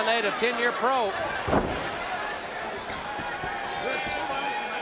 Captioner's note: audience cheering